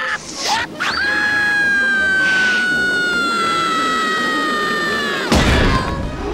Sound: screaming; gasping

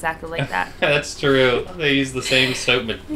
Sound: laugh

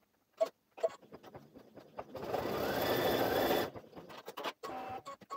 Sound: sewing machine running

